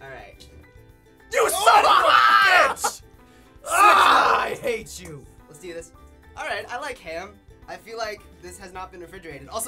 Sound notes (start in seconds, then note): 1.6 laughs loudly